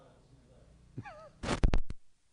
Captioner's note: chuckles